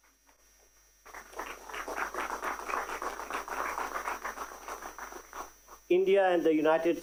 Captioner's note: applause